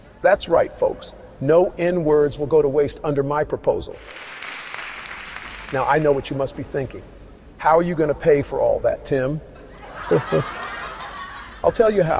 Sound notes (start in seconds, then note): 4.0 audience applauds; 9.6 audience laughs